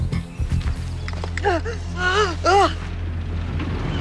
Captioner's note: gasping